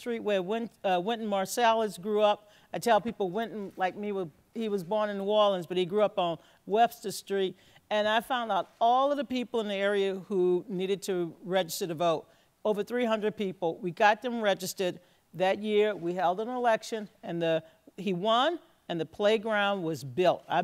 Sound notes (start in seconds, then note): none